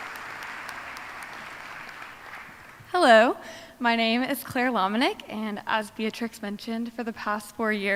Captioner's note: applause